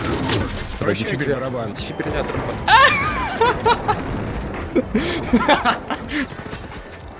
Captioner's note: laugh